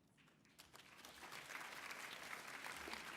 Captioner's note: applause